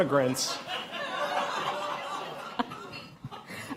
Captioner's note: laughter